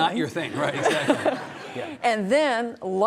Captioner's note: audience laughing